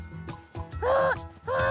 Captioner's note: imitates truck horn